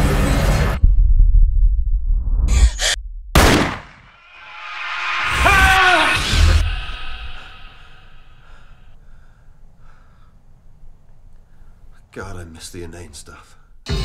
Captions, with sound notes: [GASPS] [GUNSHOT] [MITCH SCREAMS] MITCH:>> God I miss the inane stuff.